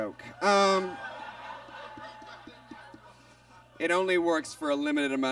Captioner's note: audience laughs